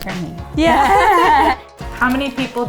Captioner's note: both laughing